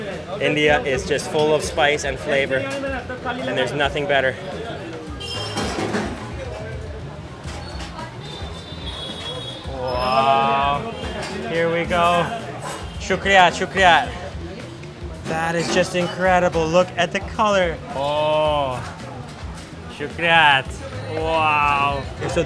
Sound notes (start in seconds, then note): 5.1 car horns honking